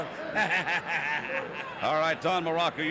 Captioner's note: laughs